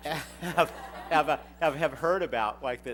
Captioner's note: laughter